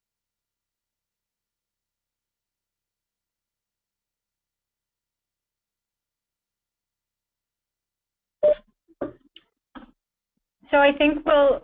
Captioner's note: pause